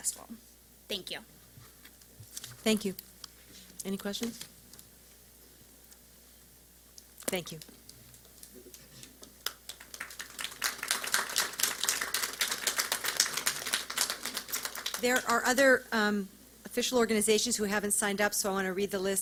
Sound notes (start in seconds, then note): 9.4 silence